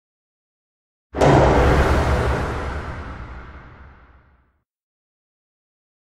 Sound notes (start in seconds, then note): 1.2 sound of bomb